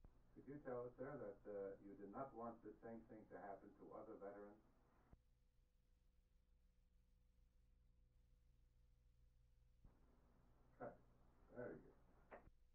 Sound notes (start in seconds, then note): 5.0 silent